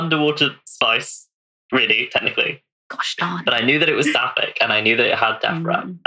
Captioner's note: laughs